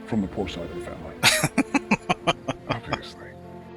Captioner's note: laughing